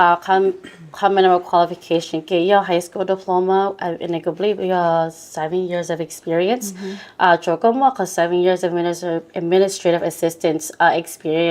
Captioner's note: Speaking in Hmong